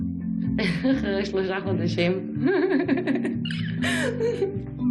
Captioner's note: laughing